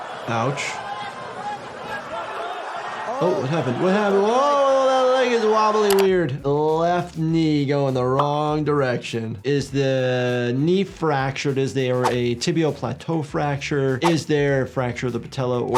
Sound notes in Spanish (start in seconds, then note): 0.0 multitud charlando